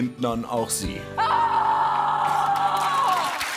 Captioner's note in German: schreit